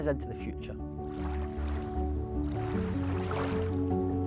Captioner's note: water swishing